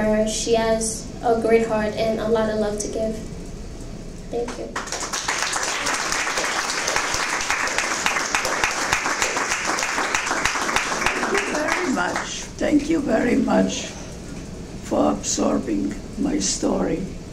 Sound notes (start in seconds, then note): 4.4 applause